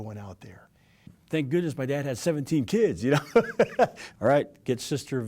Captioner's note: laughing